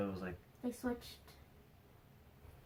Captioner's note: hears footsteps